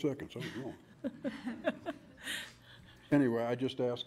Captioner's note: laughing